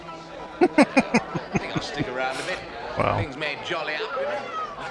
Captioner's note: laughing